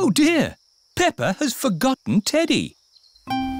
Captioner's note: none